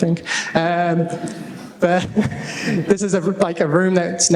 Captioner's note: laughter